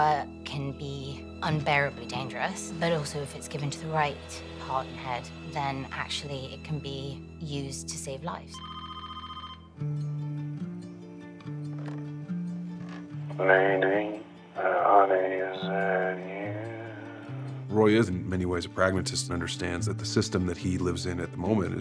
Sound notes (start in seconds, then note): 8.5 phone rings; 13.6 on phone